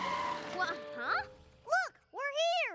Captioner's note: tires screech